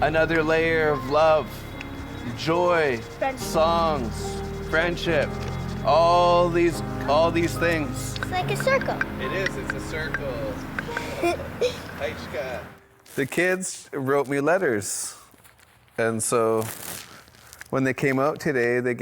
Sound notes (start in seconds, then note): 10.9 child chuckling; 12.2 speaking foreign language